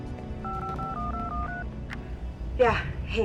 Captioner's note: phone beeping